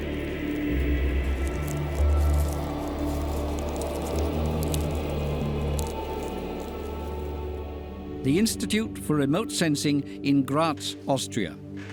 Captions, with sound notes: [crackle of locusts] The Institute for Remote Sensing in Graz, Austria.